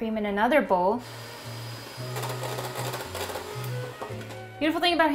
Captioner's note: mixer whirring